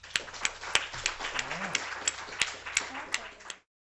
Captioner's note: applause